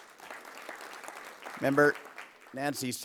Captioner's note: applause